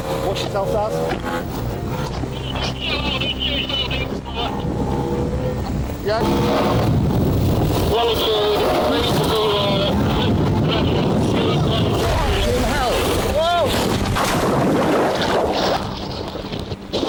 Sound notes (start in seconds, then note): 0.0 boat droning; 2.2 wind drowns out speaker; 4.3 boat droning; 7.4 wind drowns out speaker; 9.9 wind whooshing; 14.1 water gurgling; 14.1 water whooshing